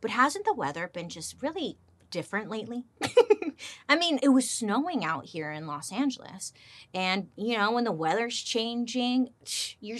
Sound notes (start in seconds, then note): 3.0 laughs